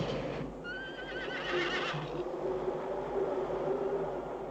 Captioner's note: horse whinnying